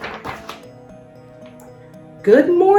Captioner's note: page shuffles